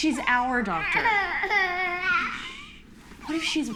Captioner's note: crying